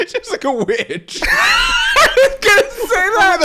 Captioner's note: laughing